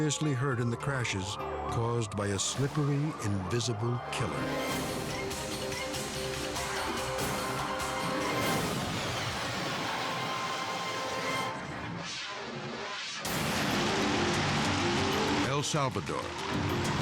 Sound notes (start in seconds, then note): 4.2 fast-paced music; 6.3 tires screech; 7.8 crash roars; 13.2 unsettling music